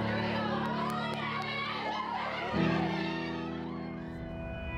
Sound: team cheering

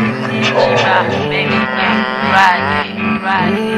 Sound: uhm, hum

